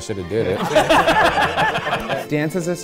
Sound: everyone laughing

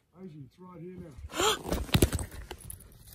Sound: gasp

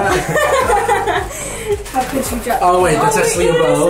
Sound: laughs

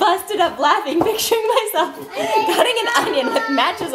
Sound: laughs

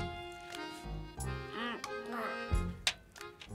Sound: grunts softly

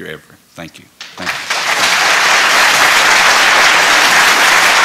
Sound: applause

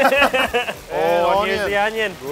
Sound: both laughing

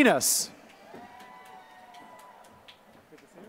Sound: applause

